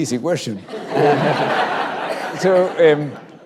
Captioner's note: laughter